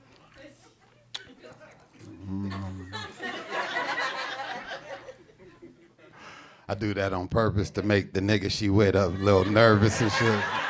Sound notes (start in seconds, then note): 2.2 hums; 2.6 audience laughing